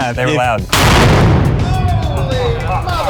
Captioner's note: cannon simulators booming; laughing